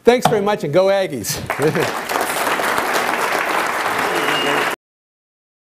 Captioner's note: applause